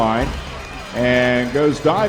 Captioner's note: crowd Noise